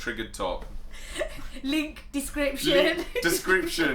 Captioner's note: laughs